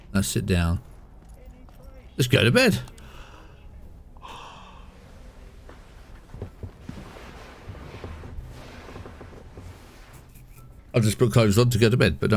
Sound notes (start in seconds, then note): 4.1 sighs